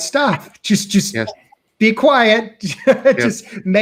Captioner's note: chuckling